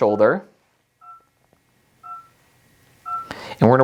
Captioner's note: machine beeps